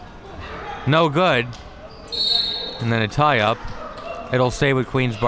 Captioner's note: whistle being blown